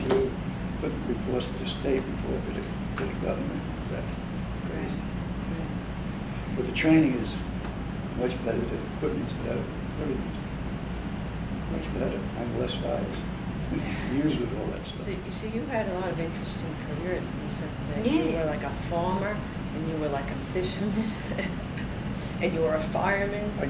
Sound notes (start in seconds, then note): 14.6 laughs